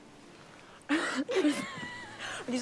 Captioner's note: both laughing